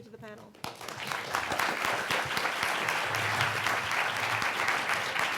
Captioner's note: audience applauding